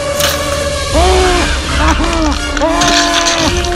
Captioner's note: muffled Screaming